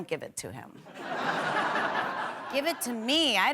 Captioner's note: laughter